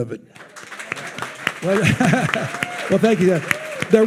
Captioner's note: attendees applauding